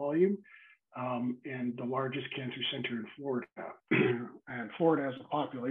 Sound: clears throat

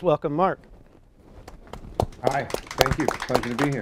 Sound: applause

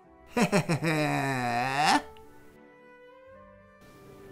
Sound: Sylke laughs

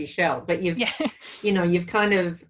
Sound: laughs

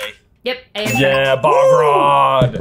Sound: bell dings

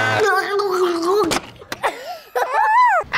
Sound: yelling; gargling; laughing

